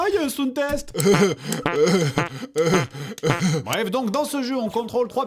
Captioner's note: fart noises